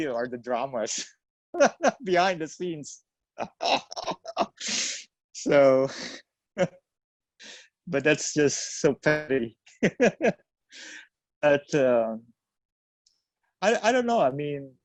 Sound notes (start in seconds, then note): 3.4 laughs